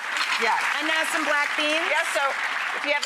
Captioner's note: clapping